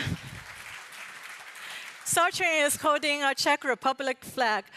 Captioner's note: applause